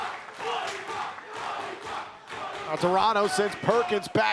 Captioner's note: fans chanting